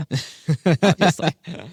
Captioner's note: laughs